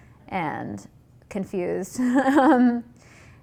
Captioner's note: laughs